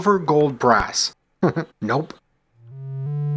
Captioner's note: chuckles